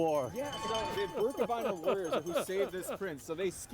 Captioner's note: chuckling